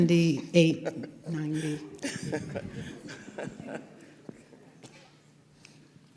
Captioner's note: laughter